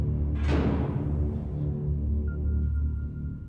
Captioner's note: jail door slams